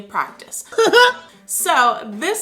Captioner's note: chuckles